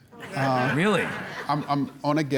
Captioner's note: audience laughing